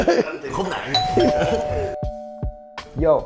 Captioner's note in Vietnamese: Cười